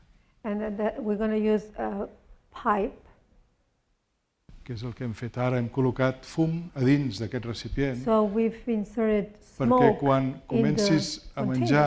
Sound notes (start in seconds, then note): 0.0 speaking spanish; 5.1 speaking spanish